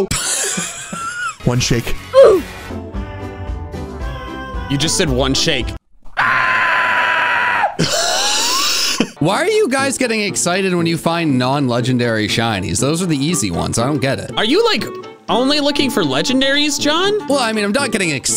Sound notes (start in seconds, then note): 0.0 laughing; 6.1 screaming; 6.8 laughing